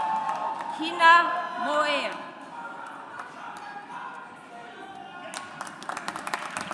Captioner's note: audience applauds